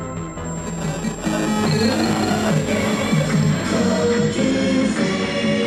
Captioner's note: radio frequency buzzing